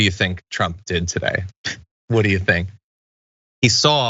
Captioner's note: laugh